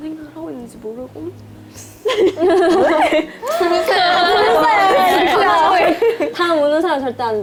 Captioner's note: tears